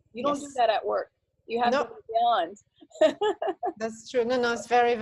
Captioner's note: laughs